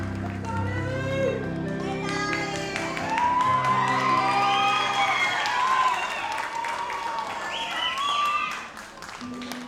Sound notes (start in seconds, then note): 1.4 audience applauds